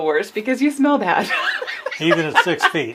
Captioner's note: laughs